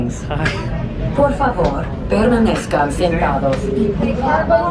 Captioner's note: announcer speaks in Spanish